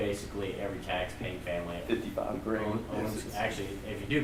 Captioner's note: voiceover